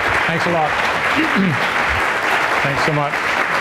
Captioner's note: audience applause